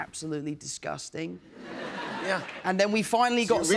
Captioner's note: laughter